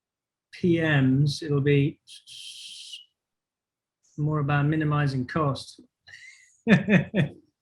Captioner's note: laughs